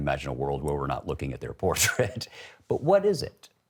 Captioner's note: laughs